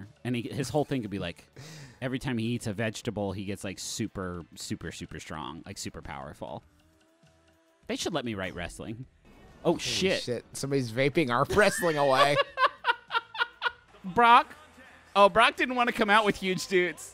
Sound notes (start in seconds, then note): 11.5 laughing